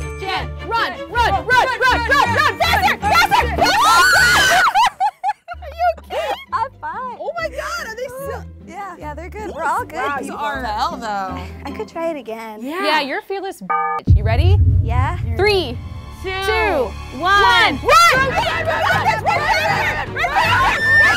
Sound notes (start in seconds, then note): 4.2 yells; 5.1 laughs; 13.7 beeps